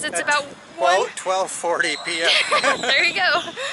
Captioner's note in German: Gelächter